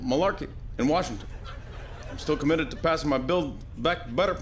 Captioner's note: laughter